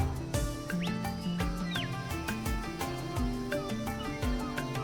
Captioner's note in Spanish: pájaros trinando